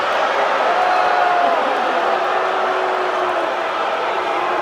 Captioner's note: crowd boos get louder